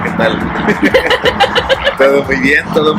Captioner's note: laughs